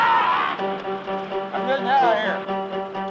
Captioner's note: screaming